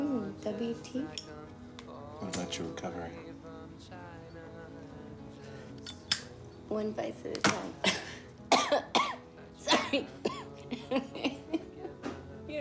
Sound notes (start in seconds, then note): 1.0 lighter clicking; 5.8 lighter clicking; 8.4 Betsy coughs; 9.7 laughs